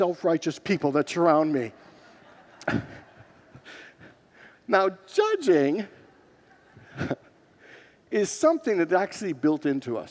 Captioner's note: congregants laugh